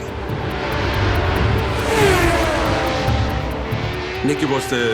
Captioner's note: car engine reeves